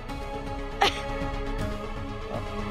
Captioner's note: coughs